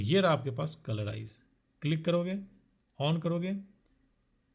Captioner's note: click